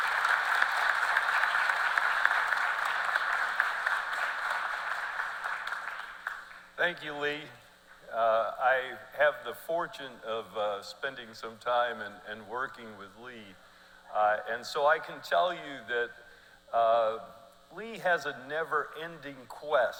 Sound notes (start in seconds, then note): 0.0 cheers and applause